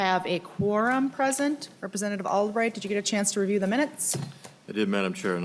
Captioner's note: gavel